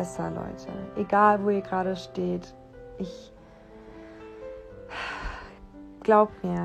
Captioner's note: sigh